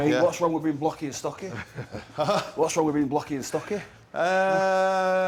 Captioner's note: laugh